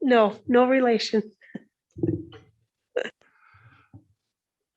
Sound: chuckling

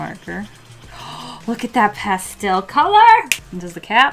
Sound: gasps

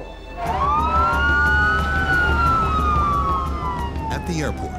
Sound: sirens blaring

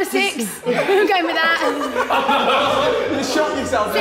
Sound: Sidemen laughing

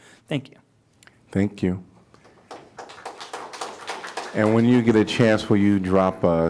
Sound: applause

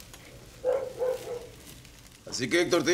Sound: barking

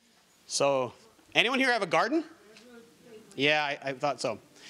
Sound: audience murmuring

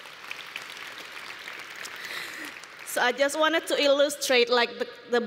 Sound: applause

